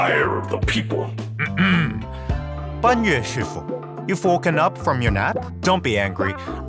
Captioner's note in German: räusper